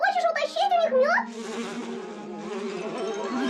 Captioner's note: buzzing continuing